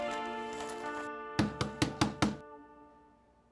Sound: knocking at door

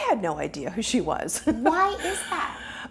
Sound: chuckles

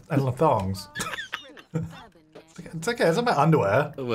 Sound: laughing

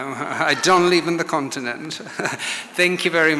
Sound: audience laughs

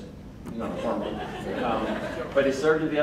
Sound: crowd laughing

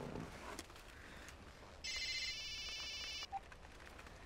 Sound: ring

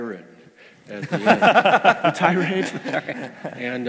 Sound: laugh

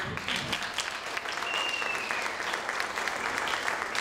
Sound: applauding

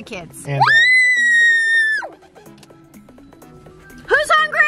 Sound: screaming

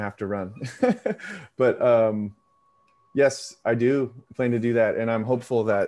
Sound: laughs

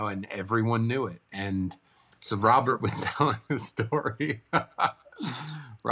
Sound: laughs

